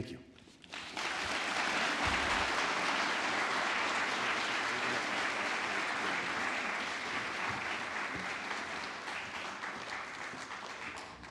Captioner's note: applause